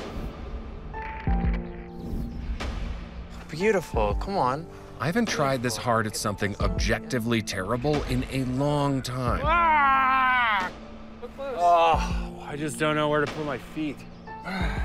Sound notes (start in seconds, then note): 0.3 soft music; 9.4 screams